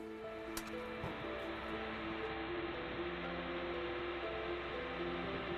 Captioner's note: diesel engine